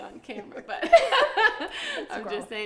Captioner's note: laughing